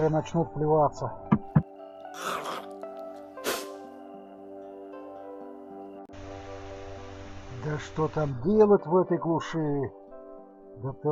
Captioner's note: ugh!